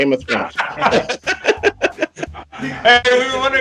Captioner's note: laughing